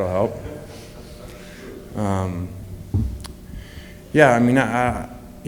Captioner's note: laughter